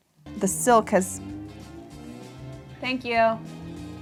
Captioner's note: car engine revving